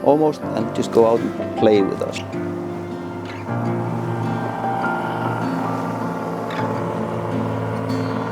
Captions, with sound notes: almost and just go out and play with us. (calm music) (engine rumbling)